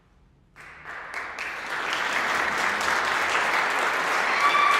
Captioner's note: applause